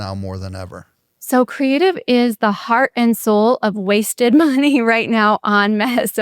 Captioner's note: laughs